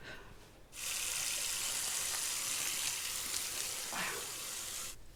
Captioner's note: water running